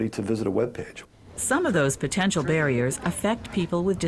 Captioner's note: voiceover